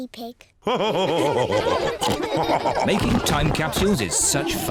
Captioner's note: all laugh